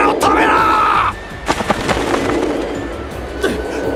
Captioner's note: flap flap